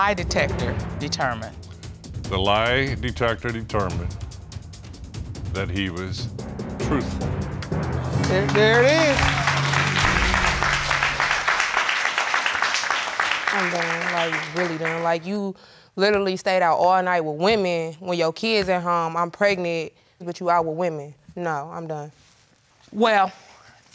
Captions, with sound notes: What did the lie detector determine? The lie detector determined that he was truthful. There it is! (CROWD CLAPPING) I don't, like, I really don't, like... You literally stayed out all night with women when your kids at home and I'm pregnant. But you out with women. No, I'm done.